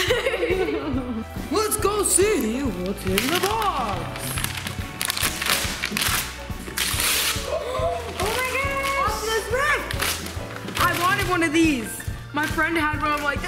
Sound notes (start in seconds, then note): 0.0 laughing; 5.4 paper ripping